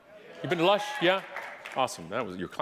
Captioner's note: audience applauding